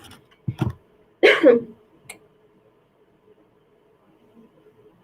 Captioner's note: coughs